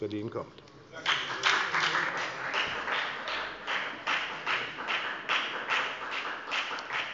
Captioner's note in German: Beifall bei der FDP